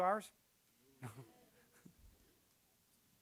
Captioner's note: chuckling